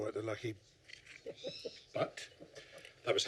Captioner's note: chuckles